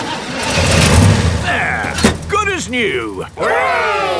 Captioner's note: engine starts